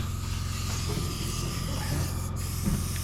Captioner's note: motor whirring